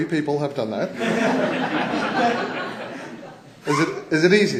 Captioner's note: laughter